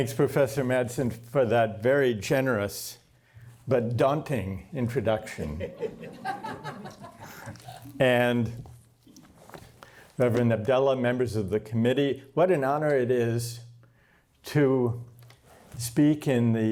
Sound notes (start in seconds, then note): 5.4 laughter